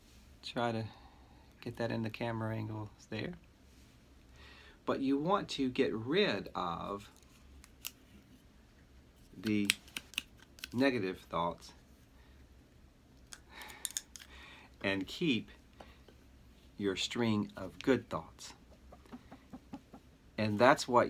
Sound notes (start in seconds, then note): 7.8 straw flicking